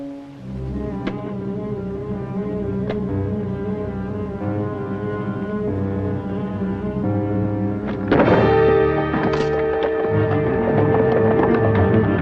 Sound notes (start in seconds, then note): 1.1 guns thud; 8.4 dramatic orchestral music